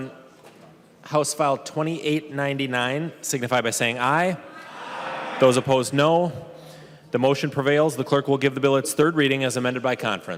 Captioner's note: chorus of ayes